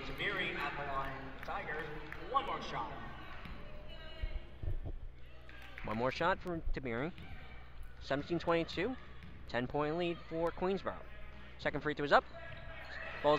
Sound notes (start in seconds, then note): 4.4 crowd talking